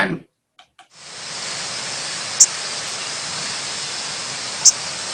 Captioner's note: bird chirping